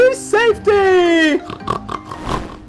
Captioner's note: pigs snorting and grunting